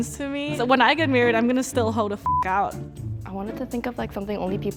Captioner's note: beep